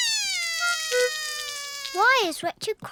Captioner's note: cries